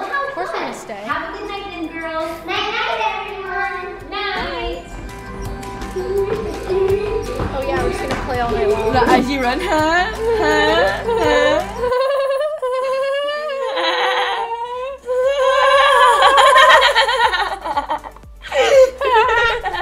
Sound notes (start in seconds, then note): 5.2 bright music; 9.6 mimic giggling